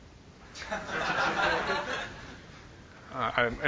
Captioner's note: laughter